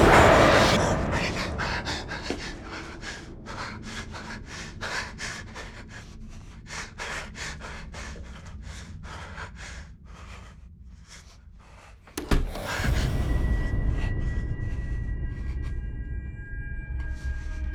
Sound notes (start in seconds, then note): 0.3 heavy breathing; 12.1 door closes; 14.6 suspenseful music